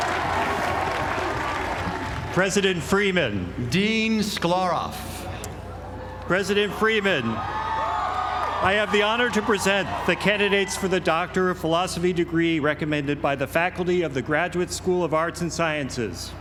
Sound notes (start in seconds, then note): 7.8 applause